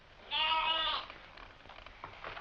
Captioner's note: bleating